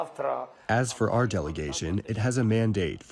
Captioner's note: through translator